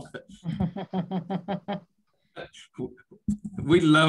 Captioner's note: laughs